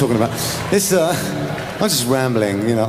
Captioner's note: laughs